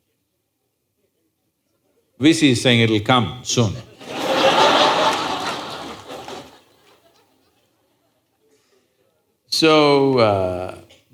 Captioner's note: laughter